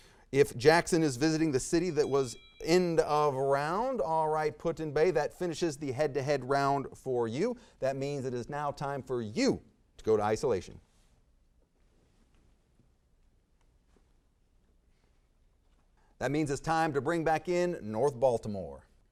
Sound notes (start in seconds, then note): 1.6 bell dings